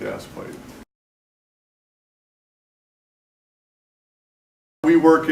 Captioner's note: silence